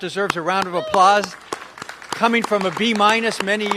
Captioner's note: applause